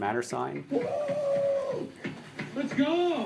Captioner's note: knocking on door; screams